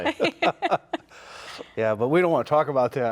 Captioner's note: laugh